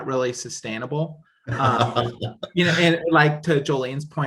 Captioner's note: laughs